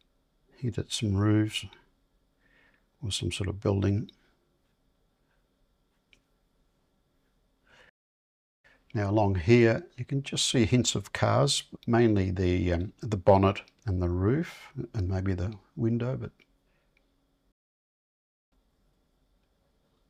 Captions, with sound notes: He did some roofs or some sort of building. [silence] Now along here, you can just see hints of cars, mainly the bonnet and the roof and maybe the window. [silence]